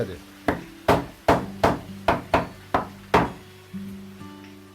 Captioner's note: hammering sound